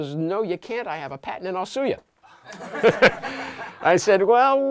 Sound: laughter

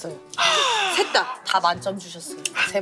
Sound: sighing

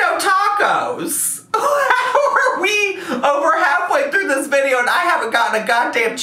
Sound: laughs

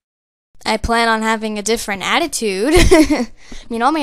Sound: laughs

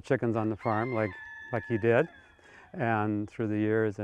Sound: rooster crowing

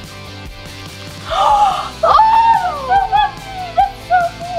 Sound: gasps

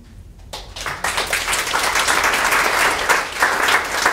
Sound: audience clapping

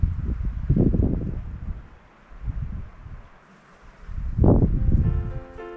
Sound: wind

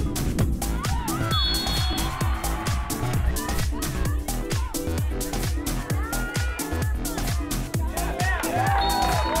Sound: whistle blowing; clapping

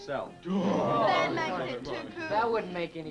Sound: group groans

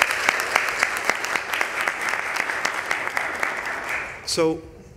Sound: applause

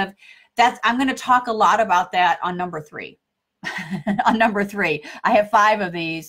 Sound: laughs

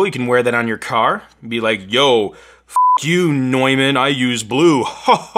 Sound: beeping

